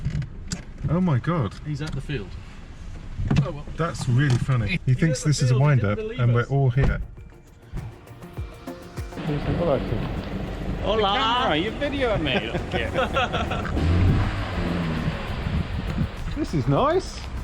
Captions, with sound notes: Oh my God. He's at the field. Oh well. That's really funny. He thinks this is a windup and we're all here. Hola. [laughs] This is nice.